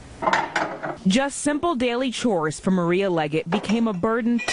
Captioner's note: voiceover